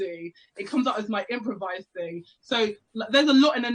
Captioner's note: none